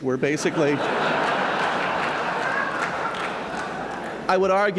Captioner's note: laughter